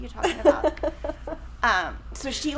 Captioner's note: chuckles